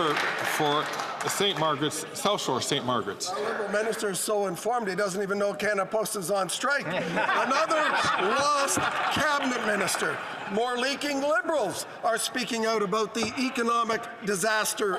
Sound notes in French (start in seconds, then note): 6.5 voix de l'interprète